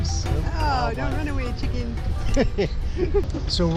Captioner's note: laughs